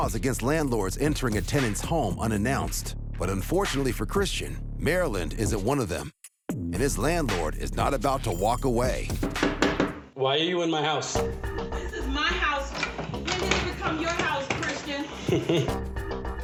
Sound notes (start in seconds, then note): 9.2 rapping on door; 12.8 doorknob turning; 15.1 scoffs